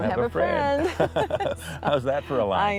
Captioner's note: both laughing